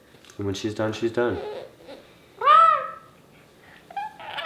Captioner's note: coos